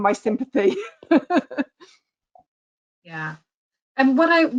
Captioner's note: laughing